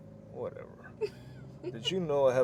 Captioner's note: Suzette laughs